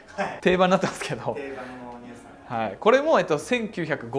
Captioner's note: laughs